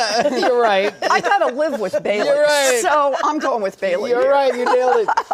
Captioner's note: laughter